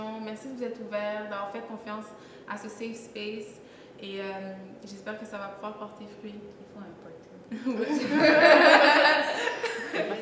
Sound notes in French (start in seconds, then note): 7.5 rires